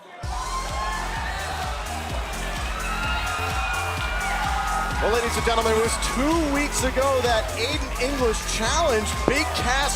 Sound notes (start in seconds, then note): 3.8 crowd cheering